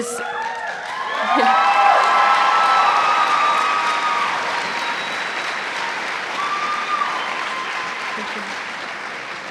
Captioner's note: cheers and applause